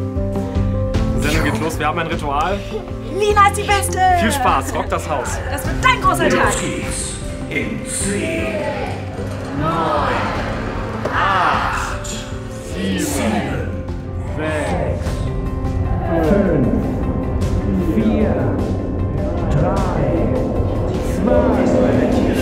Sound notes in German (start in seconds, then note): 14.1 gedämpft, in Zeitlupe